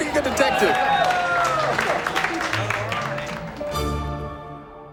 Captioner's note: cheers